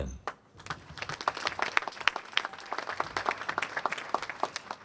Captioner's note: applause